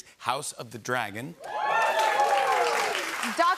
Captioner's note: cheers